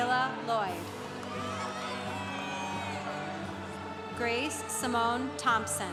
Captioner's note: congregation cheering